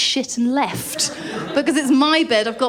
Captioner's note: laughter